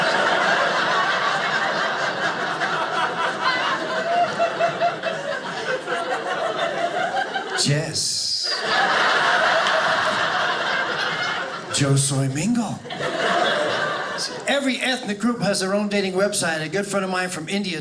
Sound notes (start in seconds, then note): 0.1 audience laughing; 8.9 audience laughing